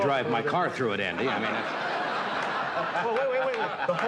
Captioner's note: audience laughs